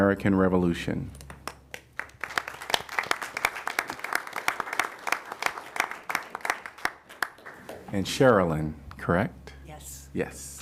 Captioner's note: applause